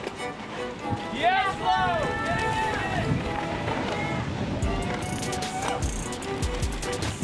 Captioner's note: cheering